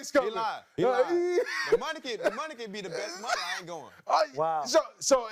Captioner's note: laughter